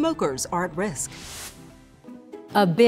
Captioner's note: air whooshes